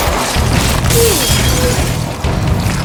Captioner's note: gunshots firing; glass shattering; man grunts; tentacles squelching and chittering